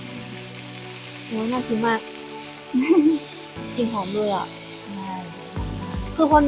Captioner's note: laughs